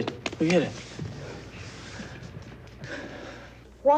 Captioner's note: sighs